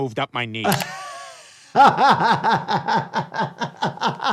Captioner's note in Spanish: riendo